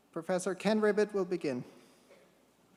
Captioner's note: none